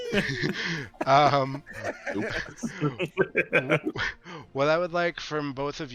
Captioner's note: laughing